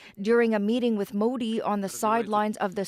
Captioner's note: speaking alternate language